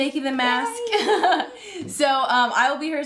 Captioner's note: cheering happily; laughing cheerfully